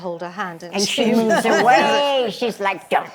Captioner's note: laughter